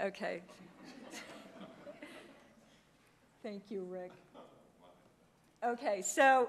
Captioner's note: laugh